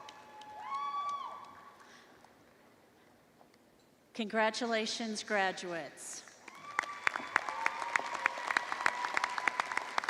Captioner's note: cheers and applause